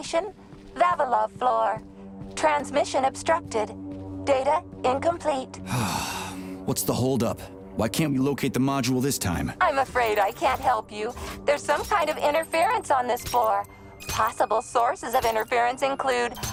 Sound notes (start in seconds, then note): 5.6 sigh